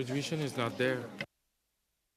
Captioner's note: speaking French